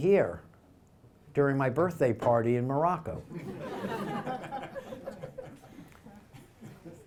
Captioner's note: audience laughter